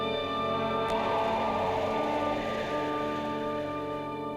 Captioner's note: wind howling